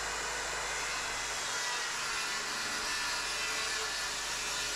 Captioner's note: drill whirring